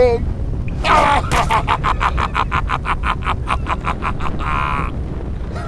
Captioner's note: Acoleyet laughs hard